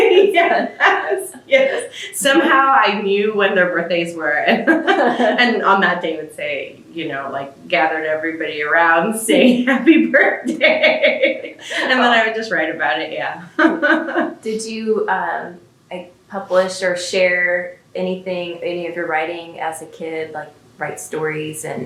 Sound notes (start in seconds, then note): 9.4 laughs